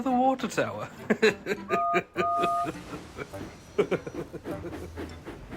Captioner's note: neville chuckles and whistles